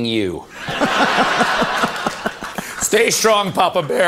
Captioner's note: audience laughter